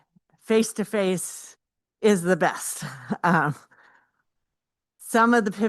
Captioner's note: chuckles